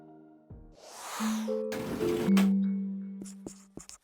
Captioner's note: air whooshes; pencil scribbling